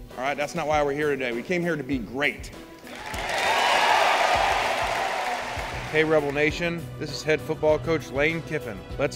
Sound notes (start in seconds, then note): 2.8 cheering